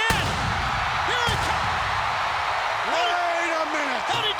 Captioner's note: pyro explodes